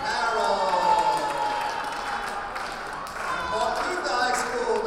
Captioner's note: cheering